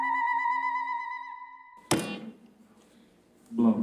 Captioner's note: buzzing; student speaking Lakota